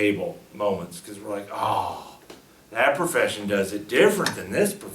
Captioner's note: sighs